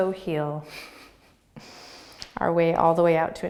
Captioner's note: laughing